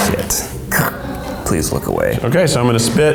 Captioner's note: throat clearing